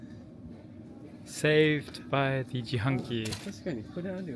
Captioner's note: vending machine